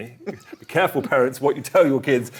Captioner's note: giggling